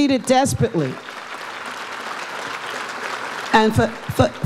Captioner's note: audience applauds